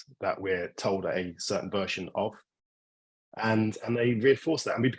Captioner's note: none